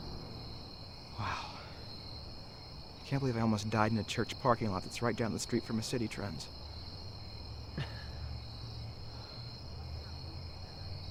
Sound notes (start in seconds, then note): 7.7 chuckles